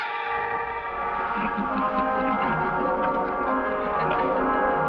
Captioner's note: evil chuckling